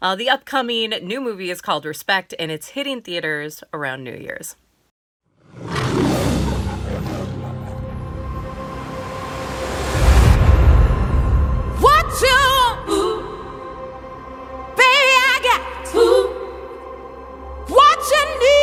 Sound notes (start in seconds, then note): 5.5 SOUND EFFECTS: lion roars